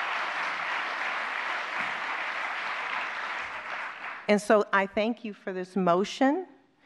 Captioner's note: applause